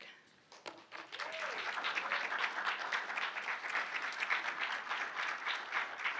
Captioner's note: audience cheering and applauding